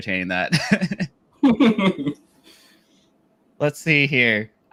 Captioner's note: laugh